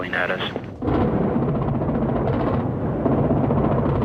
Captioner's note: explosions